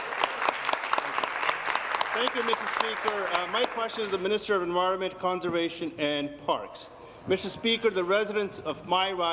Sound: applause

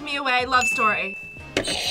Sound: bell rings; buzzer rings

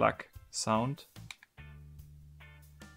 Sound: faint snap

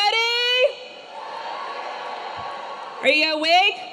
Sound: students cheering

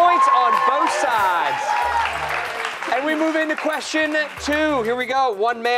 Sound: cheers and applause

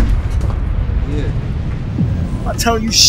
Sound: gunshot firing

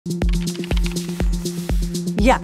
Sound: upbeat music; computer keys clicking

